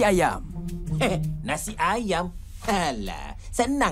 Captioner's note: scoffs